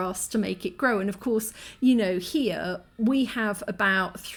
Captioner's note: none